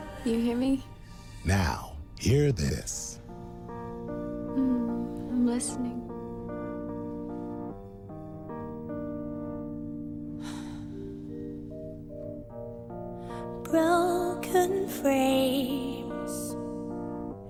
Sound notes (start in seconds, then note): 3.7 piano music playing; 10.4 sighs